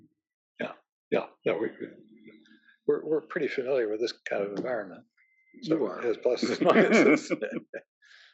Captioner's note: laugh